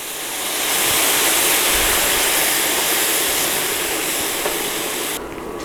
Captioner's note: more sizzling